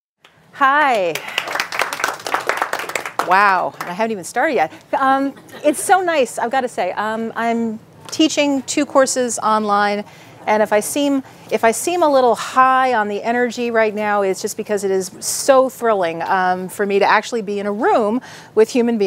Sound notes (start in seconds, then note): 0.8 clapping